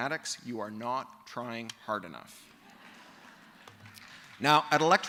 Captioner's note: laughter